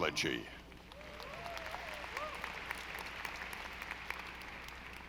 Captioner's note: audience applauding